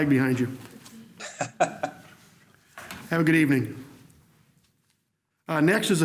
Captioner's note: laughs